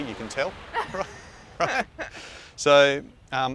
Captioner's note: both laughing